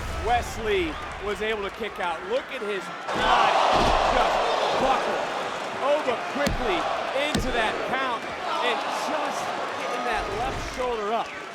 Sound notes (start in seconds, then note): 3.7 audience cheering